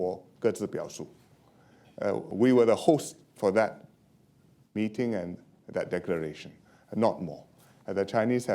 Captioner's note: speaking foreign language